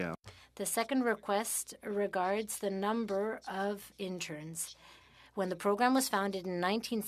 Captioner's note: speaking French